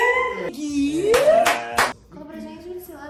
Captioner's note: inês brasil clapping